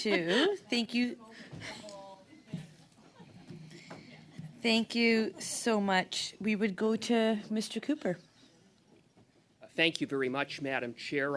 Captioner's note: laughter